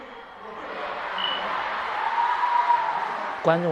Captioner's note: cheers erupting everywhere